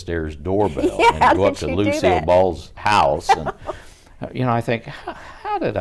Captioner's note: laughs